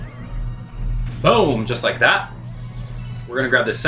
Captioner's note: explosion booms